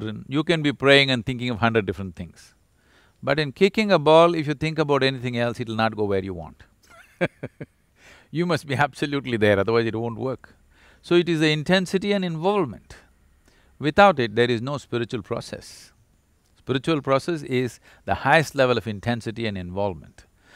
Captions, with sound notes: you can be praying and thinking of hundred different things but in kicking a ball, if you think about anything else it’ll not go where you want (Laughs). You must be absolutely there, otherwise it won't work. So it is the intensity and involvement, without it there is no spiritual process. Spiritual process is the highest level of intensity and involvement.